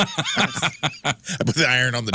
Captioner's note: laughing